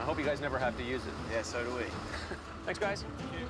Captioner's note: chuckles